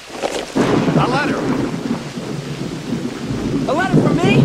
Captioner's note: thunder rumbling